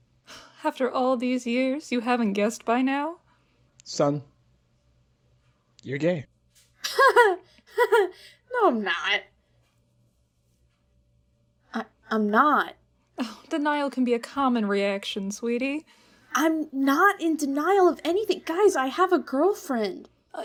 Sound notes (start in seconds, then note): 7.6 laughs